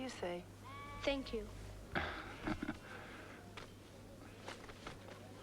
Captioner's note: Pateray chuckles